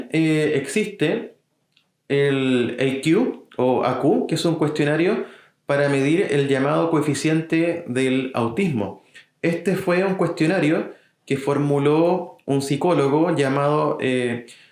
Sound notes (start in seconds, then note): 4.1 Spanish